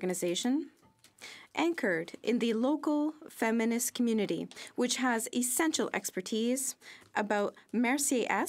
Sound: speaking French

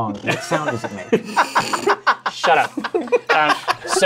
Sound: laughter

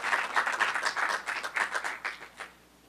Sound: applause

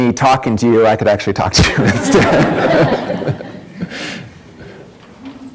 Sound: audience laughs

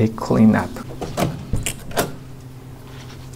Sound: door knob clanks

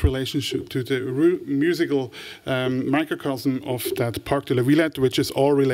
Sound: french

